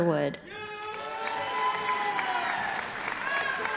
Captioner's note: crowd cheering; audience applauding